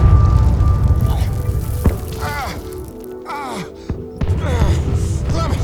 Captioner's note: explosion blasts; men grunt; Stephen grunting